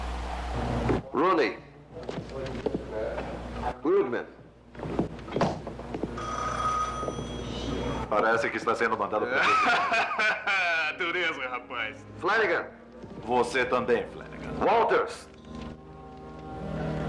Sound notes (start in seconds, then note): 6.1 phone Rings; 9.2 laughs